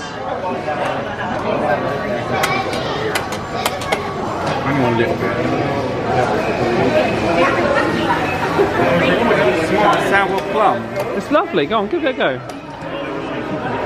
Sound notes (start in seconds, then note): 0.3 indistinct chatters; 2.6 button clicks; 4.8 indistinct chatters